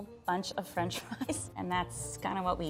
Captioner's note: laughs